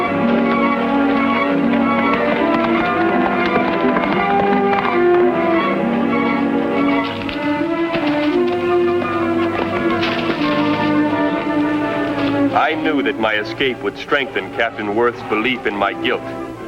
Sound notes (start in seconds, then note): 2.9 horse cantering